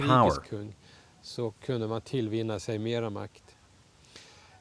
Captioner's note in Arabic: الصوت المنطوق باللغة الأجنبية